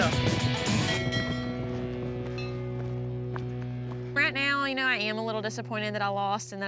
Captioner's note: ringing bells